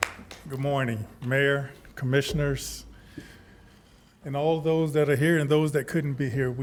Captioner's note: applause